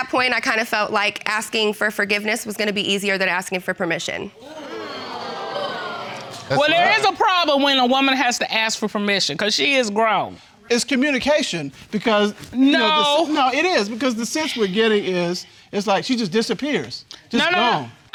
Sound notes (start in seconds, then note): 4.4 audience exclaims